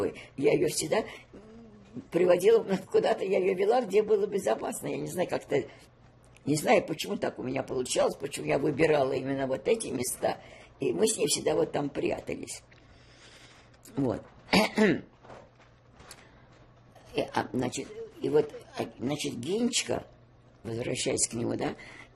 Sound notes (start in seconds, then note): 14.5 coughing